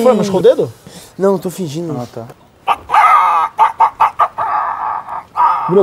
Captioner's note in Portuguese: cacareja